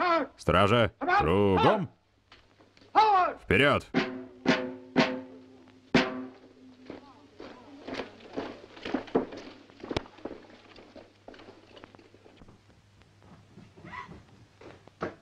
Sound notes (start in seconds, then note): 3.8 drum beating; 4.1 floor pattering